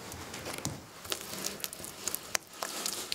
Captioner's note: quiet crackling